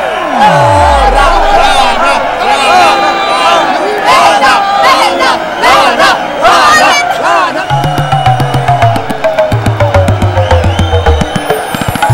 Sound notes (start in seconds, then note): 0.3 Everybody cheering; 10.2 Mouthing